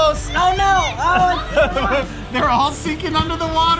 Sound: laughing

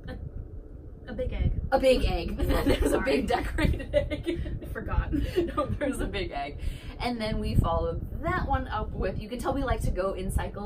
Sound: laughter

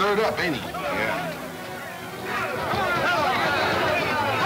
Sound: men yelling simultaneously

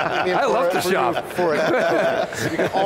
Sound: laughing

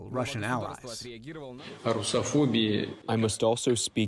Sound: through translator

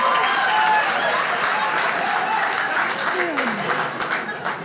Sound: audience laughs; audience cheers

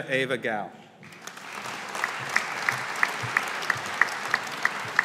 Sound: audience applauding

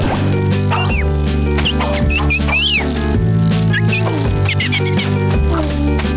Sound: chirping

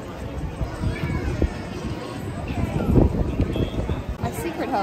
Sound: wind rumbling

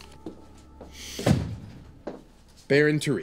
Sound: foot steps approaching; door slams

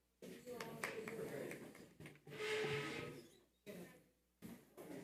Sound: distant people exiting

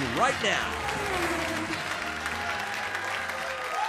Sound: race car zooms; audience cheers and applauds

